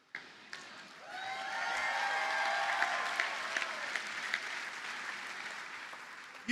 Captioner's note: audience cheers and applauds